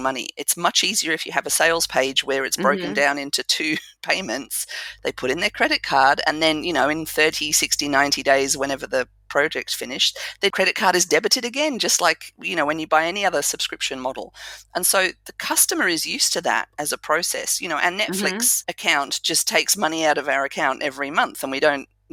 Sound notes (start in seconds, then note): 2.6 laugh